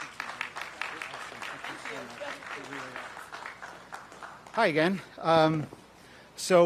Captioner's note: applause